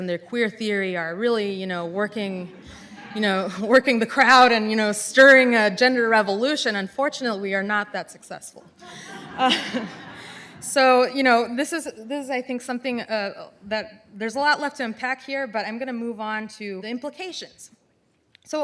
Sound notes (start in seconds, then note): 8.8 audience laughs